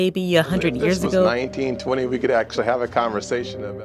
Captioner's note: soundbite of archived recording